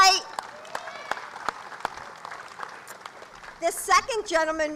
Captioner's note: applause